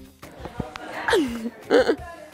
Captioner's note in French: rire